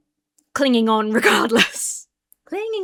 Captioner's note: laughs